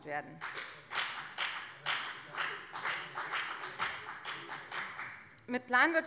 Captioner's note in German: Beifall bei der FDP